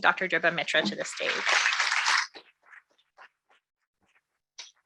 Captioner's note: audience clapping